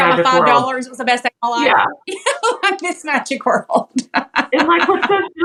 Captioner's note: laugh